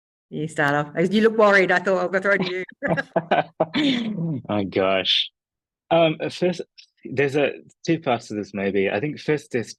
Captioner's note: laughs